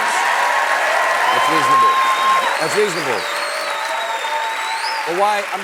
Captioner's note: applause